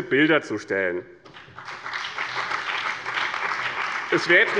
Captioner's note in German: Beifall bei dem BÜNDNIS 90/DIE GRÜNEN und der CDU